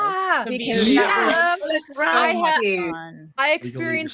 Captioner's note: overlapping chatter